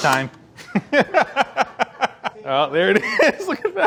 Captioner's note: laughing